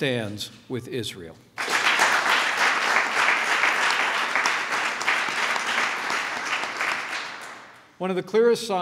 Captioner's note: applause